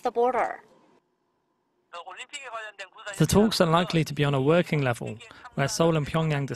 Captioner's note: Korean